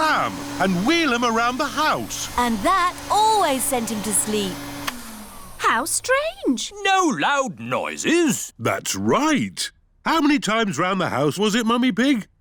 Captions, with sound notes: and wheel him around the house. And that always sent him to sleep. -(WHIRRING STOPS) -How strange. No loud noises? That's right. How many times around the house was it, Mummy Pig?